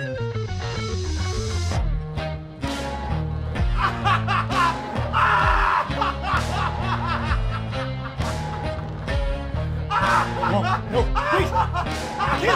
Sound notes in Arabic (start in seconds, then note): 3.7 يضحك